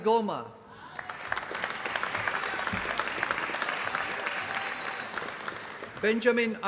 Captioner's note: applause